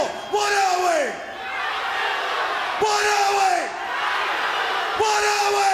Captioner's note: crowd cheering